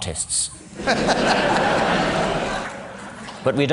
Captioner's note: laughter